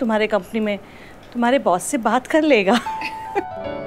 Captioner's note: Laughs